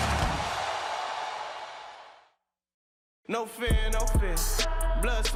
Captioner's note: cheers and applause